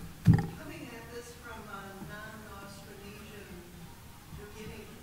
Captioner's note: woman speaking off-microphone